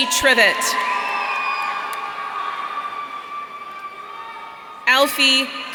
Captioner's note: audience cheering